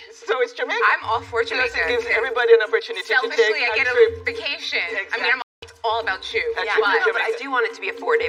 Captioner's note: none